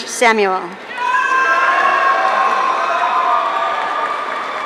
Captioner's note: audience cheering